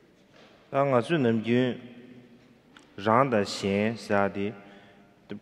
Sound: speaking in foreign language

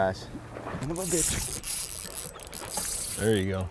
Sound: reel zipping

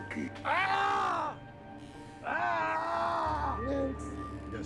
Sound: yelling

